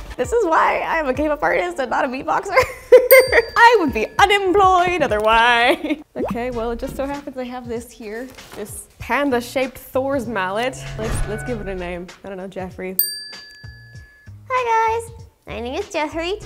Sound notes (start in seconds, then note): 2.8 laughs; 3.1 bell dings; 5.8 laughs; 10.7 lightening strikes; 13.0 bell dings